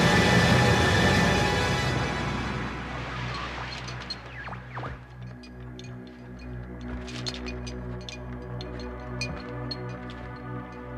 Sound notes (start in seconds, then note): 0.3 suara mendesing berhenti; 2.6 berkedip statis; 5.3 berderak lembut